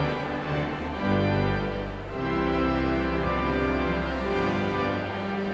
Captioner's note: audience chattering continues